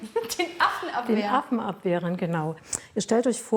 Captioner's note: laughs